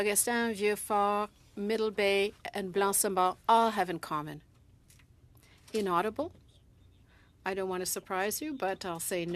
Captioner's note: speaking French